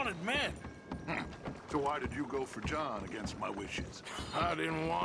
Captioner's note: grunts